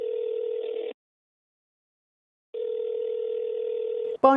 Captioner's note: phone ringing